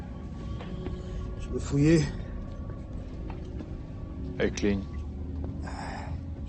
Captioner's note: people speaking foreign language